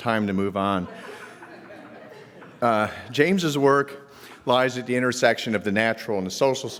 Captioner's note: laugh